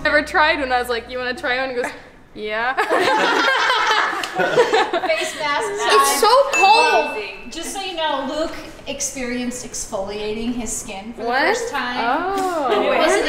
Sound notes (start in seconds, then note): 2.8 group laughing